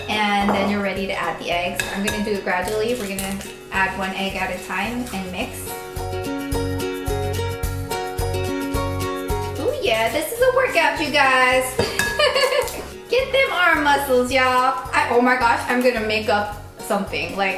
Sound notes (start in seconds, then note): 6.5 bright cheery music; 12.2 laughing